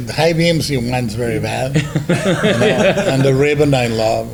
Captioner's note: laughs